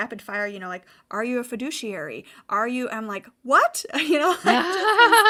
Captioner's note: laughing